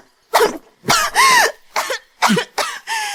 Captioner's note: cough cough cough